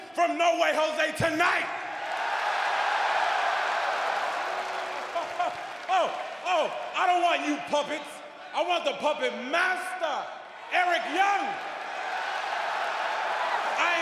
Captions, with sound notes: TONIGHT? >> [CROWD CHEERING] >> OH, I DON'T WANT YOU PUPPETS. I WANT THE PUPPET MASTER, ERIC YOUNG. >> [CROWD CHEERING]